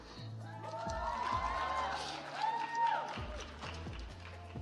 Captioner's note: audience applauds